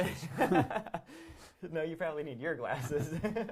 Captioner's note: laughs